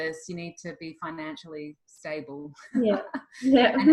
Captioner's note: laughs